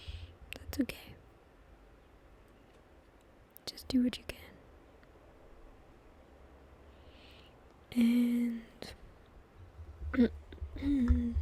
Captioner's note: clears throat